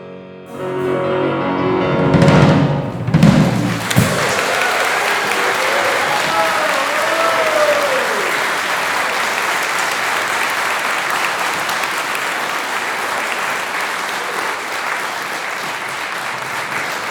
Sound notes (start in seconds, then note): 3.1 applause